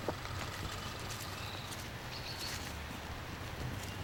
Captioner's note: squirrel chattering